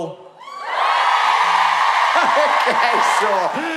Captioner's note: cheering